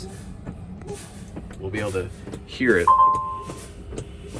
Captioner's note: brakes pumping; tractor beeps